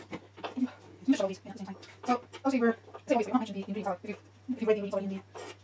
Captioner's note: fast forwarded speech